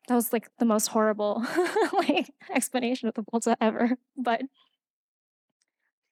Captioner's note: laughing